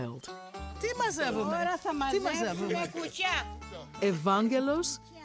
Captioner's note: speaking in greek